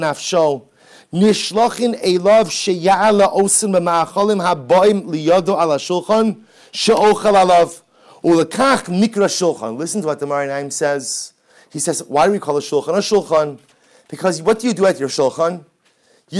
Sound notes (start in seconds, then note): 0.2 Hebrew